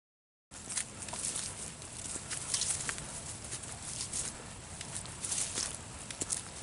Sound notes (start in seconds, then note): 0.5 woodland noises, footsteps